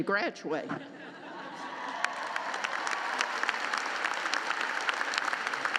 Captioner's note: laughter and applause